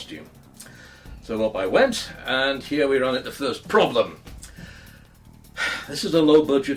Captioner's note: sighs